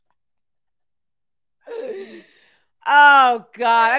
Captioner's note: laughing